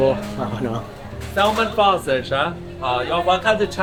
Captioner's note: speaking chinese